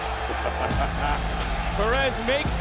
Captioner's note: Booker T chuckles